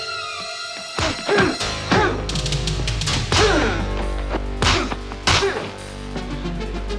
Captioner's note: kicks and punches thudding; men grunting